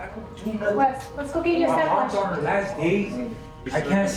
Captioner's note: indistinct chatter